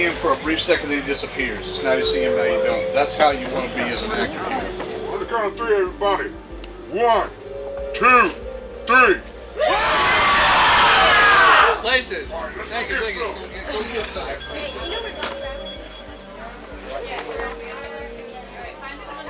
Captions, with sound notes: when you see him for a brief second, then he disappears. It's now you see him, now you don't. That's how you want to be as an actor. - On the count of three, everybody. - 1, 2, 3. [group yells] - Places. Thank you. Thank you. [people chattering]